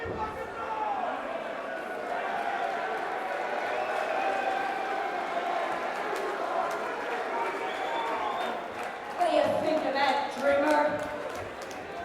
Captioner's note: crowd chatter; crowd cheering